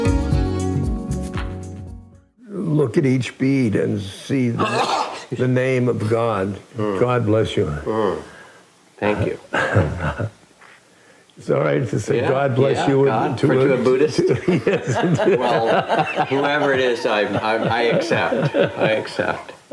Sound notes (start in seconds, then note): 4.4 sneezes; 12.2 laughing; 13.8 laughter